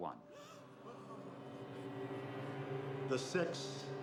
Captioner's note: gasps